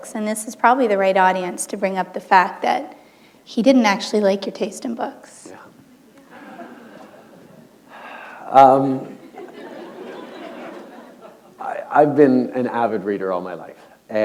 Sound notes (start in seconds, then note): 9.0 laughter